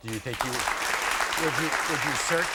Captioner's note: audience applauds